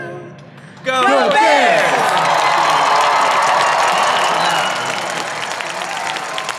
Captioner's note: audience applauding